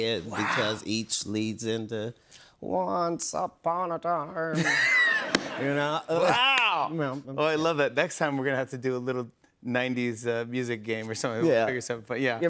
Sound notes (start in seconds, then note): 4.5 laughter